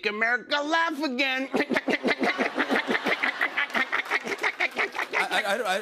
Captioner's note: laughing